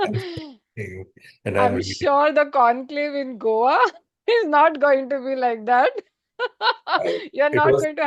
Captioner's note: laughter